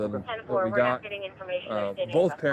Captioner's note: radio chatter